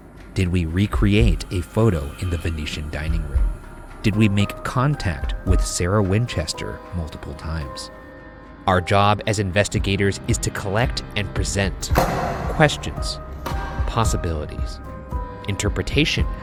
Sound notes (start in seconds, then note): 11.7 light clangs